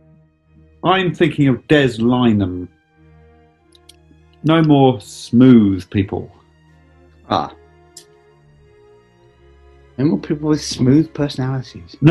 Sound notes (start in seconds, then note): none